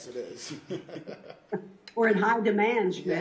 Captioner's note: laughs